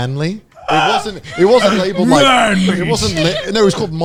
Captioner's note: all laughing